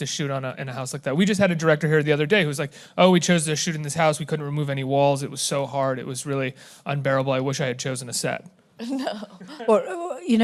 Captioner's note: laughlingly